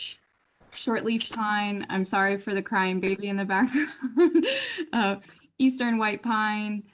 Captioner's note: laughter